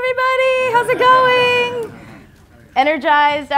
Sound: laughter

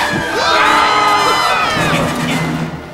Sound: screaming

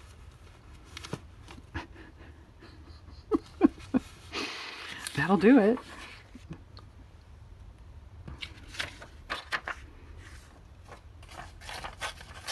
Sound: laughs

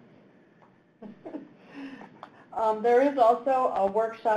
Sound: chuckles

